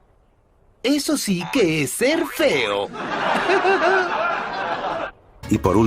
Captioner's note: laughs